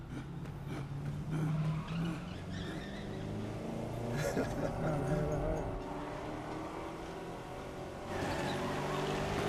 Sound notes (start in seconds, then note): 1.4 tires screeching, vehicle approaching; 4.1 laughs